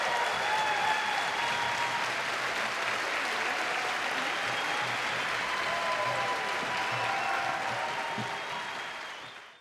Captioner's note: cheers and applause